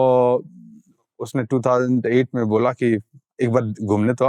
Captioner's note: speaking in Hindi